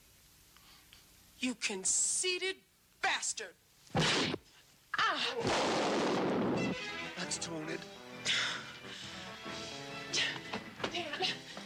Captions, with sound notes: You conceited bastard! (fist thudding) (gun firing) - That's doin' it. - Dan, Dan, come one.